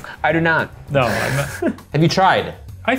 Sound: laughing

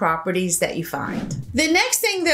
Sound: air whooshes

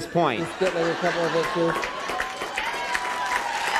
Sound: applause

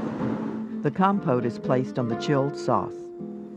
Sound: voiceover

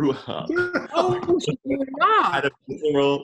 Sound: laughing

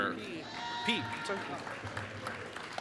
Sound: applause

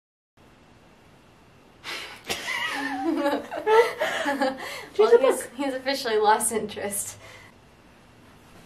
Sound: laughing

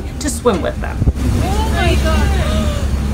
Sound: person 2 in clip gasps

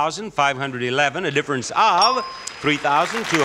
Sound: bell dinging; audience applauding

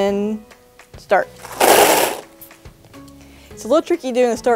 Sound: candy rattles

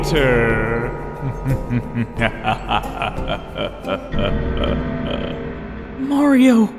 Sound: evil laugh

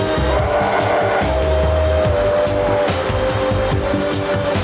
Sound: growls

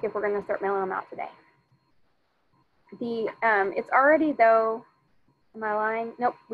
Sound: none

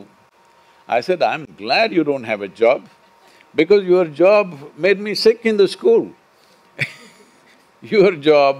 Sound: laughs

